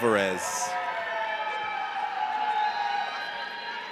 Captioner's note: audience cheers